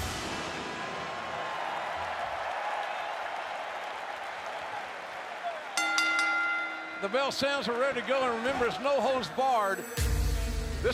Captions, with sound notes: (crowd cheering) (bell rings) The bell sounds, we're ready to go, and remember, it's no holds barred.